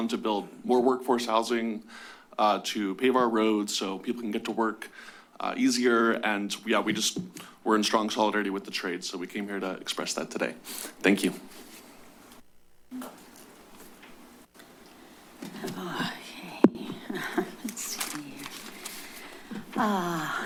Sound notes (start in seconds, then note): 14.2 pause